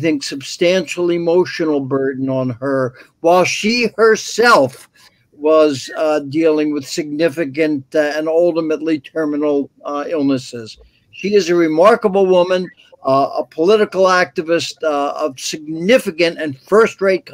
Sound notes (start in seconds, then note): none